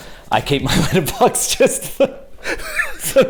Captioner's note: laughs